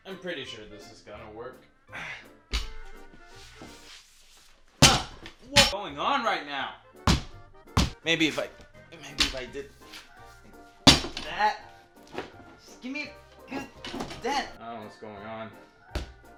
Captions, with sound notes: I'm pretty sure this is gonna work. (chinking) What's going on right now? (hitting) Maybe if I did (chinking) that, just give me a good dent. I don't know what's going on.